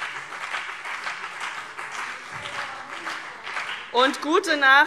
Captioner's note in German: Beifall CDU und vereinzelt BÜNDNIS 90/DIE GRÜNEN